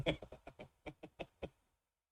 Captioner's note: laughs